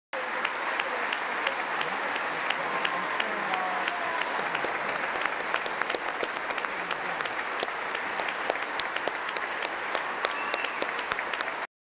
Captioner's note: applause